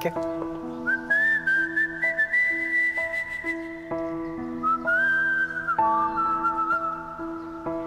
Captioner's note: Whistling